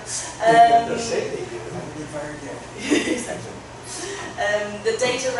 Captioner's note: laughter